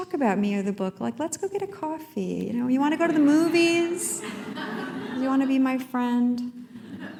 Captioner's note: laughter